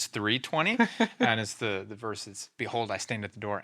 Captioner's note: laughing